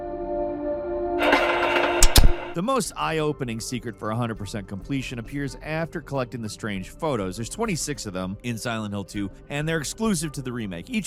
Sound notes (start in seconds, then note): 1.2 static crackling; 1.7 switch clacking